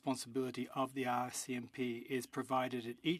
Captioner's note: speaking French